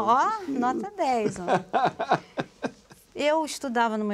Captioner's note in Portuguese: Risada